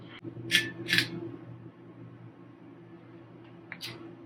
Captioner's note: scraping sound